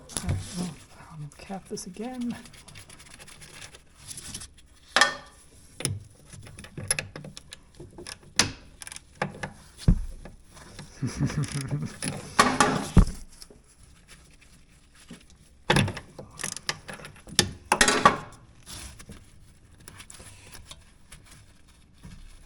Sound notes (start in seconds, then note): 5.8 parts clanking; 10.8 chuckling; 15.7 parts clanking